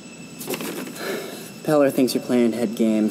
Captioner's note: Babcock sighs